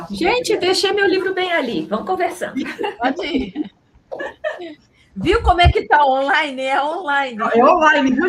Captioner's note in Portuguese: risadas